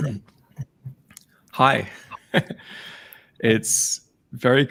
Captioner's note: chuckles